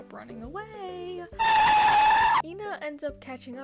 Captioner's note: tire screech